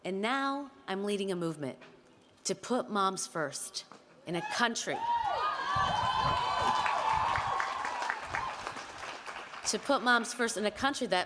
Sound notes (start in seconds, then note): 5.3 audience cheering and applauding